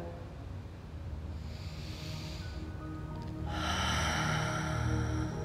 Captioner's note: breathing deeply